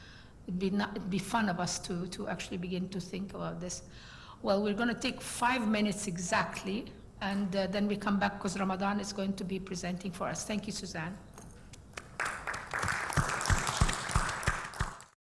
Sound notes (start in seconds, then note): 11.9 applause